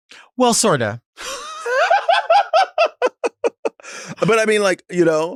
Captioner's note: Sapphira laughs